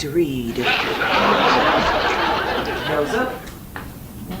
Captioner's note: audience laughs